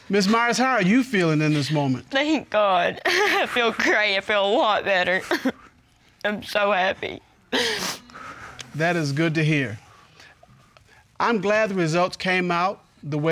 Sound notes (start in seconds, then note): 3.0 chuckles; 7.5 sobs